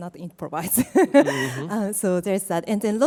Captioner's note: laughs